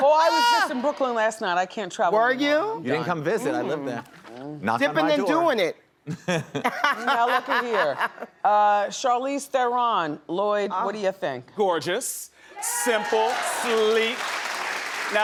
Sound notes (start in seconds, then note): 6.2 laughs; 12.7 audience applauds